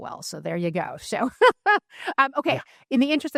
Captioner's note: laughs